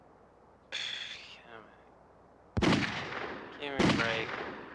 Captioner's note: Dennis groans